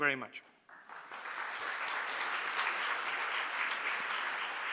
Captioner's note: applause